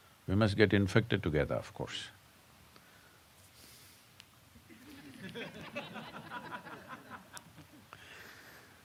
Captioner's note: laughter